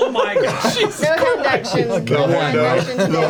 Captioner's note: laughs